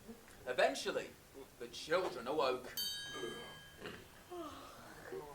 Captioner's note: ping